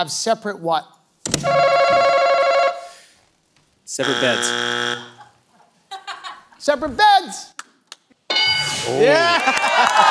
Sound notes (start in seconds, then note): 1.4 answer button rings; 3.9 buzzer sounds; 8.3 bell dings; 9.3 applause